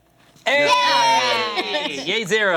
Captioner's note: cheering